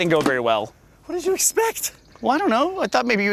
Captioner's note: out of breath